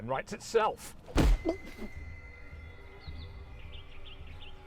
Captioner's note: leg thuds